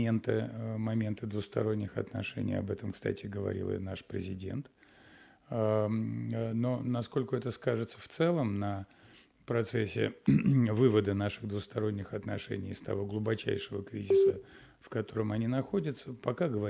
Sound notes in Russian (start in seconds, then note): 10.2 откашливается